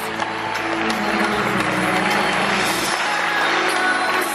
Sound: audience applauds

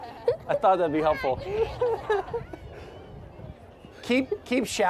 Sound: laughter

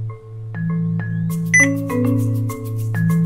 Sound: electronic beep

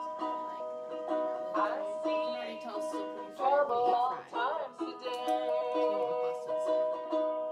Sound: soft chatting continues

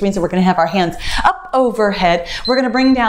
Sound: timer beeps

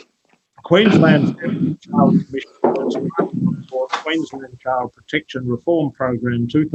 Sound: audio distorted

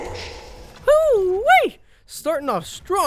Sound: excited cheering

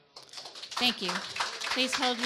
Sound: audience applause

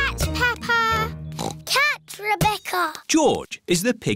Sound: squeaks; oinks

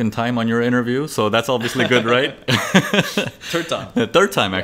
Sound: laughs

